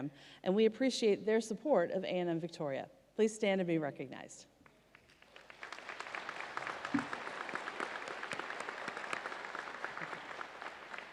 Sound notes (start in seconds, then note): 4.9 audience applauds